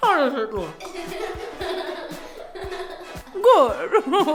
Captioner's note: laughing